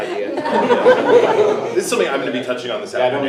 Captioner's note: everyone laughs